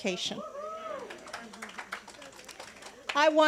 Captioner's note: congregants cheering and applauding